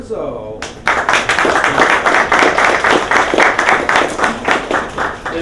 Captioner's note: applause